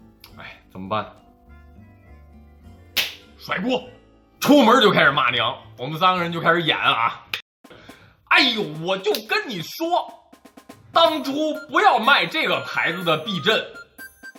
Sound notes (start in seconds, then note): 2.9 clap